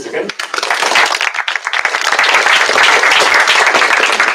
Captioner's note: applause